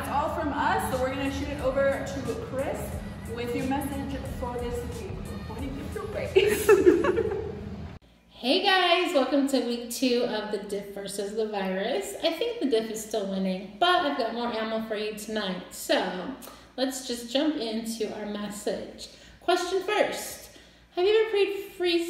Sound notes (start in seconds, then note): 6.2 laughing